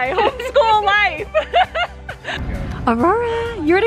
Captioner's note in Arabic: كلاهما يضحك